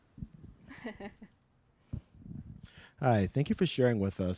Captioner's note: snickers